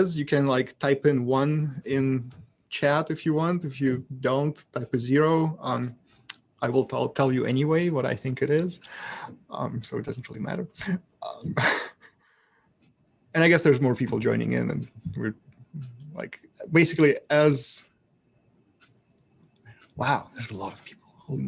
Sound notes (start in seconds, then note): 11.3 laughs